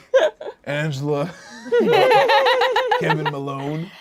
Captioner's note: laughs